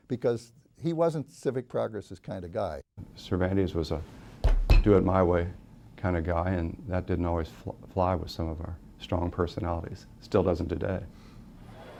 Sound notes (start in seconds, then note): 4.4 fist pounds